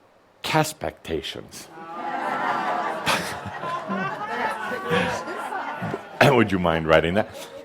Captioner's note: audience responds with groans and laughter